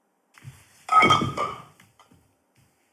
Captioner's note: clinking